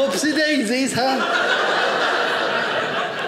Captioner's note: audience laughing